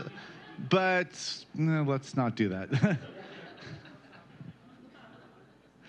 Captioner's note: laughter